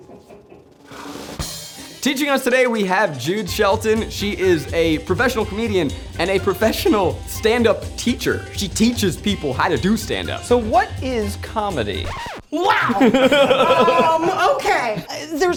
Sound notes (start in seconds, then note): 0.0 filming crew chuckles; 12.0 record scratching; 12.8 laugh